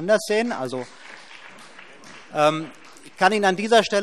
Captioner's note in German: Beifall BÜNDNIS 90/DIE GRÜNEN